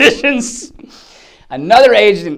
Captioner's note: laughs